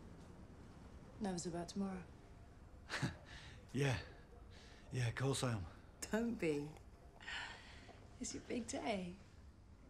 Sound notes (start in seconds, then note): 2.9 chuckles